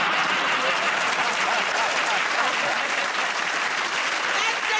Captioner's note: applause; laughter